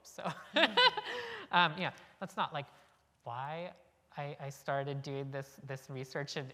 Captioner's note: laugh